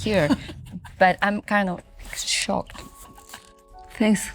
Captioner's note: Olivia laughing